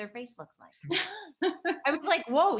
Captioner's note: Tim chuckles; laughs